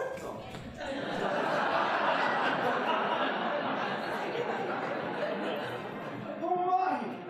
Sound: audience laughing

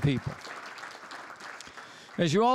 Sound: applause

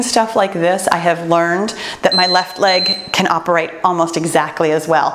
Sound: timer beeps

